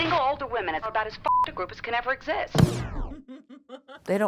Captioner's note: beep